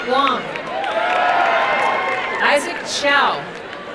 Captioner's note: crowd cheering and applauding